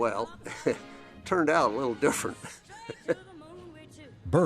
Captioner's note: laughs